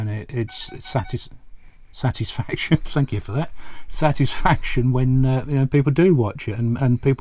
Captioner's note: phone beeps